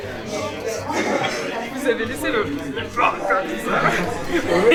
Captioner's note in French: rires